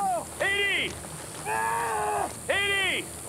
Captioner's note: screaming